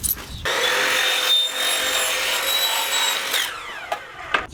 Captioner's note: power saw